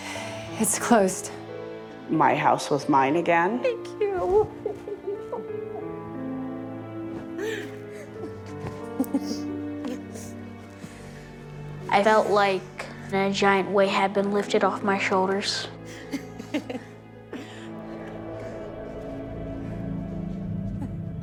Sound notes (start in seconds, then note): 3.9 laughing; 15.8 laughing